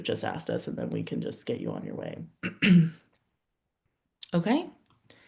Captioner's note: clears throat